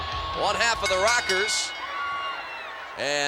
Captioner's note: bell rings